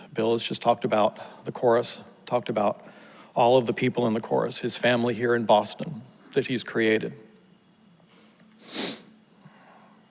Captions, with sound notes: Bill just talked about the Chorus, talked about all of the people in the Chorus's family here in Boston that he's created. (sniffles)